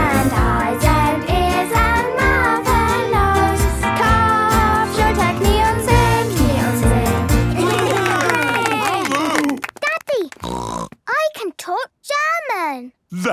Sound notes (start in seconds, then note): 3.8 singing in German; 7.5 cheering; 10.4 snorting